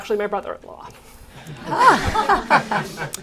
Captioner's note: laughter